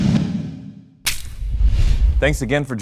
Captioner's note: electronic swoosh